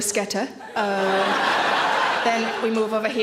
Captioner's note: audience laughing